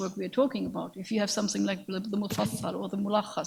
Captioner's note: speaks in a foreign language